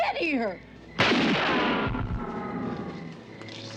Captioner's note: gun firing